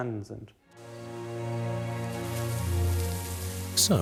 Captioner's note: grains rustling